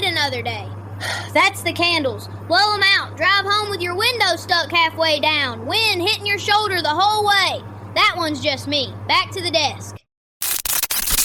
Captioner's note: breath